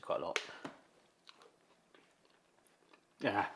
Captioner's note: tortilla crunching